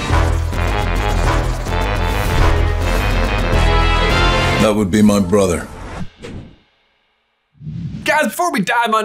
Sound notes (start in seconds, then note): 0.0 upbeat music; 4.7 voiceover